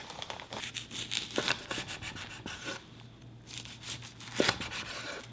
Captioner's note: knife slicing